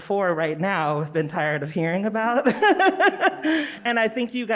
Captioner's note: laughs